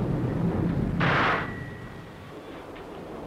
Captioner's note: gunshot